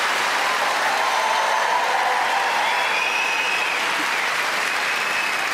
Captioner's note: audience cheering